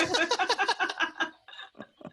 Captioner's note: laughter